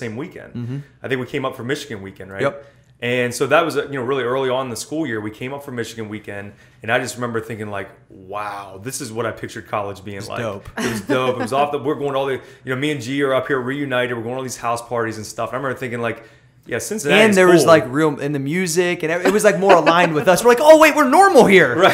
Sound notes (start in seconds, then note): 10.8 laughter; 19.2 laughter